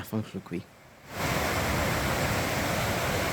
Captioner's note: sound of running water